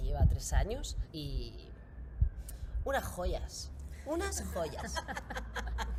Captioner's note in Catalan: riures